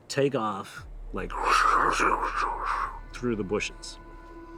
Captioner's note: imitates whooshing air